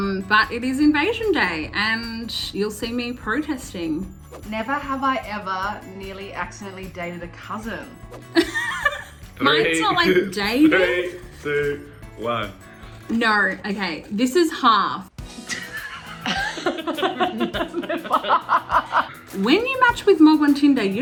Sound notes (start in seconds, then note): 8.3 laughs; 15.4 both laugh